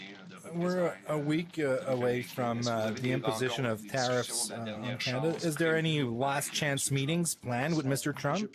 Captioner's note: speaking French